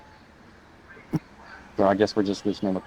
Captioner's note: David laughing